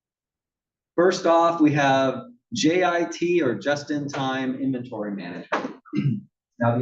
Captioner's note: cough